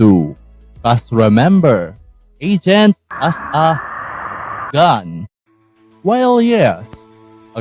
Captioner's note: agony